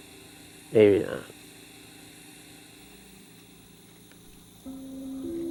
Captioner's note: ventilator hissing; relaxing chiming music